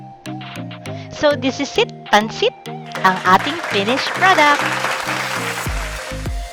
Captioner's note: clapping